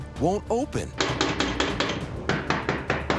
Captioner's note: sharp rapping on door